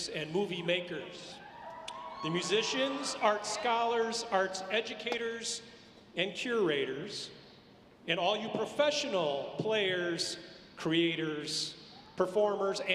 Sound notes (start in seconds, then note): none